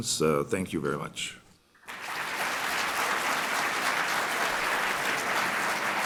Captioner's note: applause